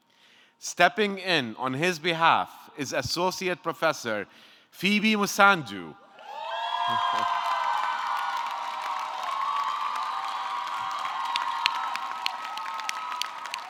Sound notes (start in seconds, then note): 6.2 audience cheering; 6.4 audience clapping